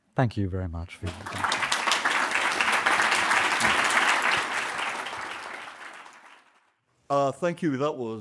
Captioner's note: applause